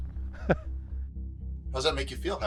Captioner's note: chuckles